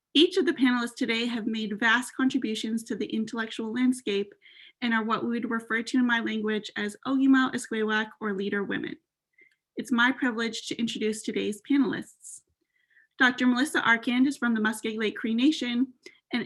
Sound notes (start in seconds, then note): 7.0 non-english speech